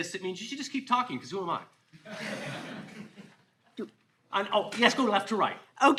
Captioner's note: all laughing